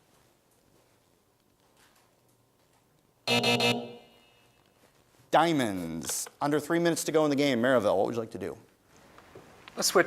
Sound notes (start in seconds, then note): 3.2 buzzer sounds